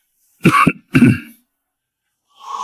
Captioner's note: cough